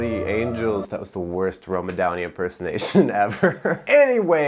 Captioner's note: laughs